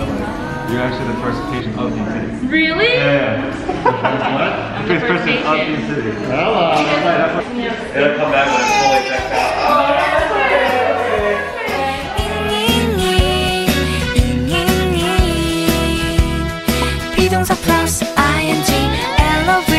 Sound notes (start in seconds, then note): 4.4 overlapping chatter; 8.3 baby crying; 12.2 upbeat music